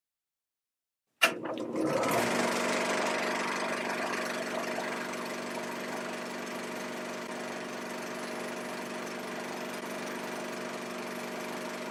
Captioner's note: projector sound effects